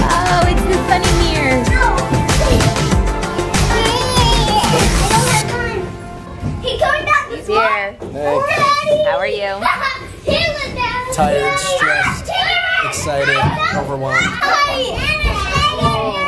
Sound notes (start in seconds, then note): 0.0 laughs; 3.6 babbles